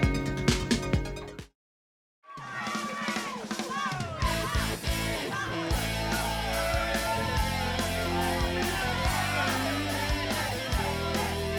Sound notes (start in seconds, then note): 2.2 crowd cheering; 4.0 fun rock music